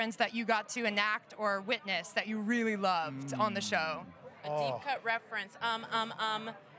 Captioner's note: none